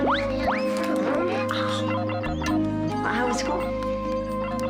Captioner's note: laughs; electronic beeping